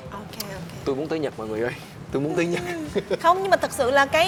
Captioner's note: laugh